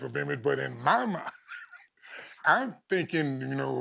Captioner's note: chuckling